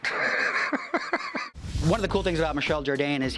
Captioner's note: laughs